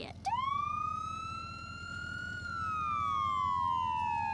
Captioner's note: siren wailing